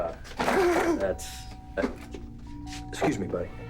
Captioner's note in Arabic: رنين جرس الباب